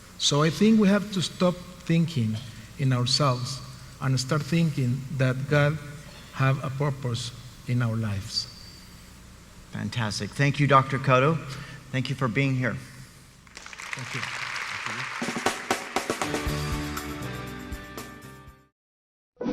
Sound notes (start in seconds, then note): 13.4 crowd applauds; 15.2 soft rock music